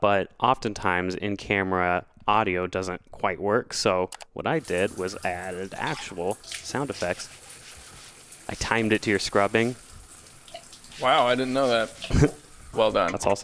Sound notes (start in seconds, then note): 8.2 water pattering